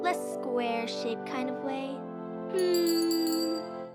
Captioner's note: twinkle noise